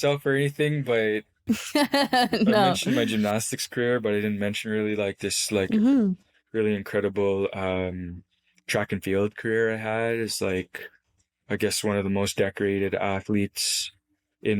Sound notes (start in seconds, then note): 1.5 laughs